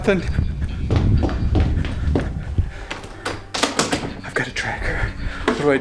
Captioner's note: feet thudding